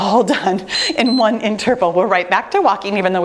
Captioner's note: timer beeps